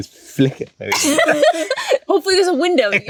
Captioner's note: both laugh